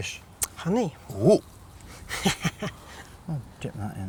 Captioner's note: laughing